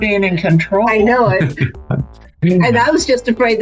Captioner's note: chuckles